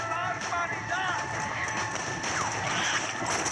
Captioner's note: footsteps and cries of spitting zombies